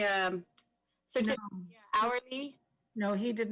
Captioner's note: speaks faintly